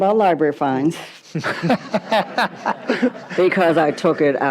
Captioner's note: audience laughs